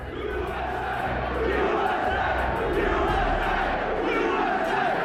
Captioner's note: crowd